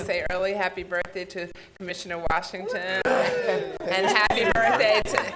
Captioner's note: cheering and laughing